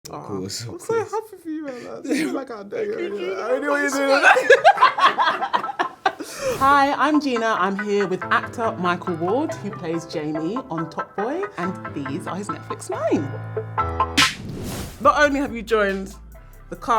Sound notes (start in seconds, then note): 4.2 laughing; 13.4 upbeat music